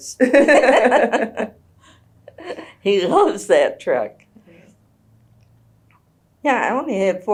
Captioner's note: laughter